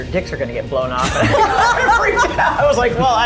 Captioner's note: group laughing